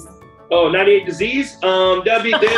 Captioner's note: laughs